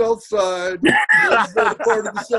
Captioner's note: laughs